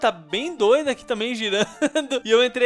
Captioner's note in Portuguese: risos